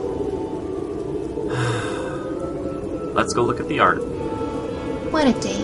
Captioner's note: resigned sigh